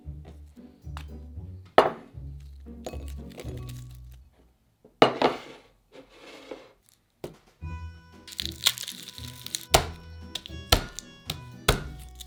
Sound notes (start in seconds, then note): 8.3 garlic paper rustling; 10.2 knife smashing